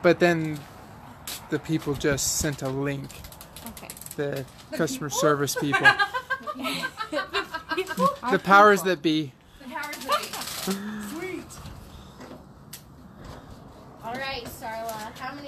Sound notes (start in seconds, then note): 4.8 women laughing